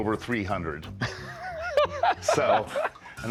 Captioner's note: laughing